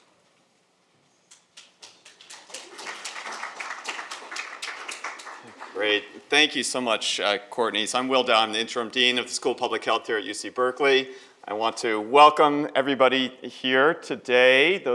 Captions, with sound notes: (audience applauds) - Great, thank you so much Courtney so I'm Will Dow. I'm the interim dean of the School of Public Health here at UC Berkeley. I want to welcome everybody here today.